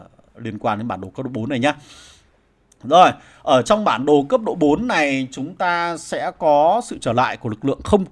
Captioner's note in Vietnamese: khịt mũi